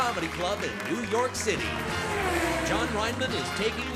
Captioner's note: car whirring